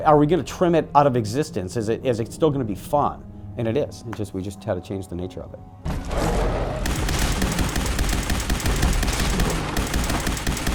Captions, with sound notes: are we gonna trim it out of existence, is it still gonna be fun? And it is, we just had to change the nature of it. (deathclaw growling) (gun firing)